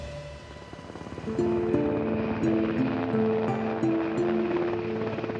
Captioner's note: helicopter blades thumping